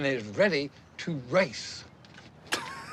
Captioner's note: laughs